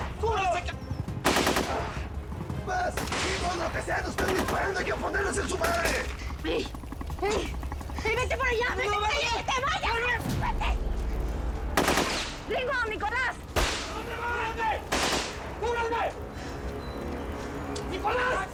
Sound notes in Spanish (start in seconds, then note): 5.3 Disparos; 11.4 Disparos; 14.4 Gritos entre disparos